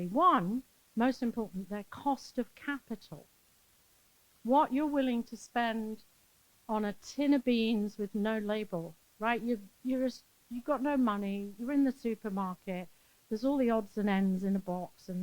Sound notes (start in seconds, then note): none